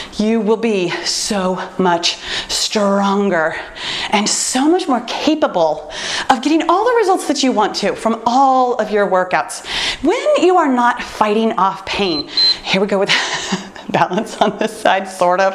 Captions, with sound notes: you will be so much stronger and so much more capable of getting all the results that you want to from all of your workouts. When you are not fighting off pain. [timer beeps] Here we go with that balance on this side, sort of.